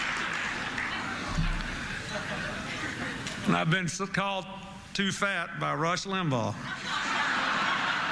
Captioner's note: laughter